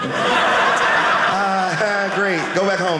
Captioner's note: audience laughing